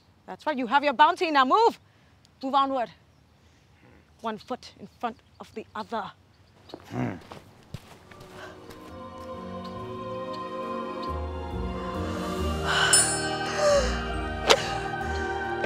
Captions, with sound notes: That's fine, you have your bounty, now move! Move onward. One foot in front of the other. [El Ranger grunts] [spiritual music plays]